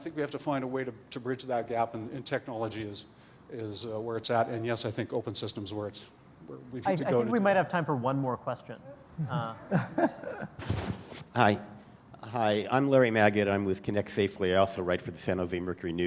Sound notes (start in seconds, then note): 9.6 laughter